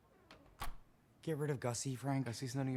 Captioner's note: door closes